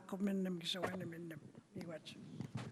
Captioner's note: speaking Indigenous language